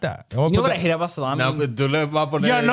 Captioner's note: speaking In Foreign Language